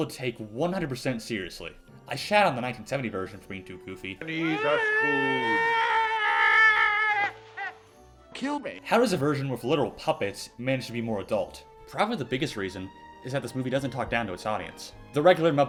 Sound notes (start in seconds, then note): 4.2 Albert Finney does horrendous yell